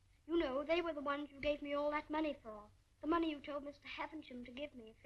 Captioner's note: none